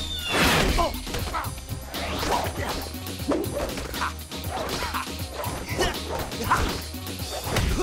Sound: grunting

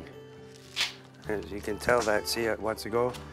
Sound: bark snaps

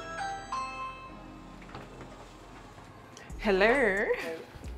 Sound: doorbell ringing

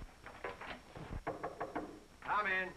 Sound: knocks on the door

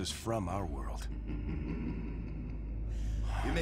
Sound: sinister laughing

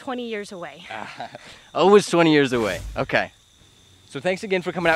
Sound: laughter

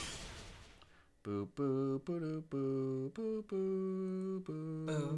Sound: hums

